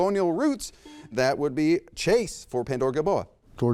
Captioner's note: buzzer beeps